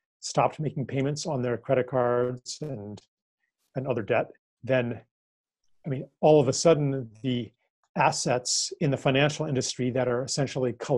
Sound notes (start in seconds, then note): none